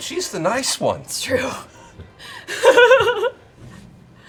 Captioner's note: laughs